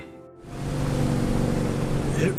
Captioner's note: boat engine roars